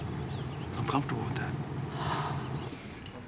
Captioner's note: sighs